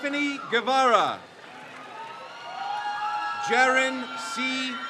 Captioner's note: crowd cheers